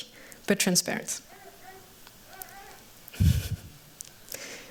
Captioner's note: baby coos; laughs